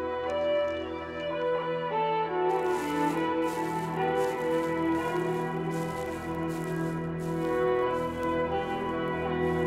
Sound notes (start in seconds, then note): 2.5 footsteps rustling